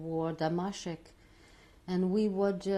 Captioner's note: non-english